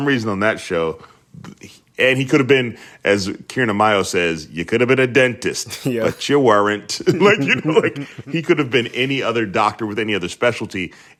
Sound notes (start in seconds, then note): 6.9 laughter